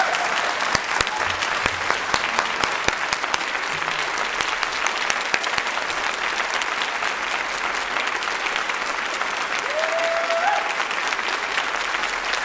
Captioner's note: applause